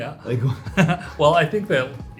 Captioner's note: both laugh